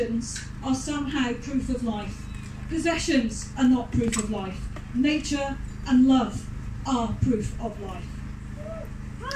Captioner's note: cheering